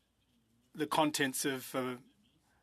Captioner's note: speaking French